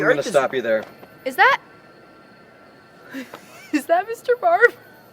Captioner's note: laughing